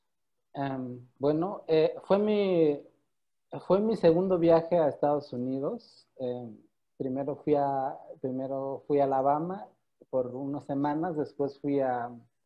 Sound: in Spanish

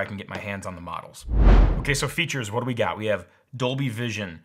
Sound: whooshing

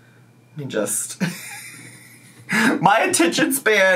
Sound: laughs

